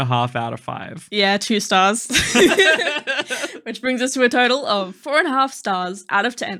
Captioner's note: laughing